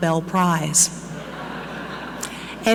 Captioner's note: audience laughing